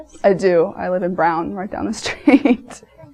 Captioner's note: laughs